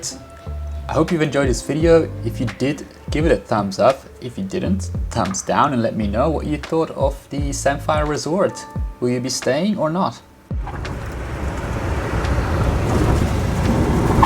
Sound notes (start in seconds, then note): 10.6 airplane roaring